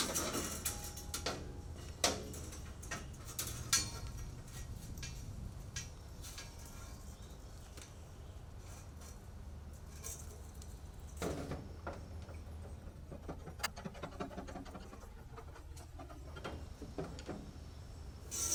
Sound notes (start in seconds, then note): 0.2 metal clanking; 12.6 tool banging